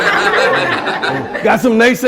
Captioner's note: laughter